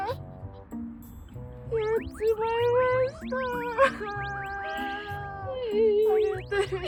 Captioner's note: crying